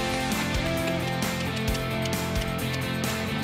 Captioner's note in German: Schnalzen